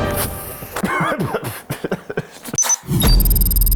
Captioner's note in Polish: kaszle